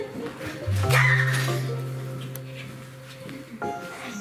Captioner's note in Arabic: صراخ